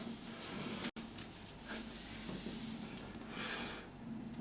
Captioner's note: rope rustles